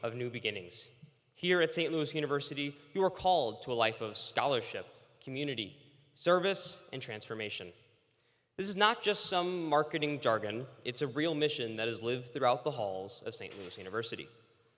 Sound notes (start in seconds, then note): none